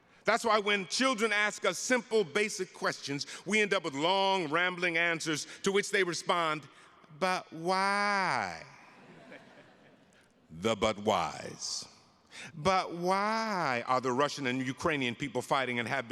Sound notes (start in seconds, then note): 8.9 attendees laughing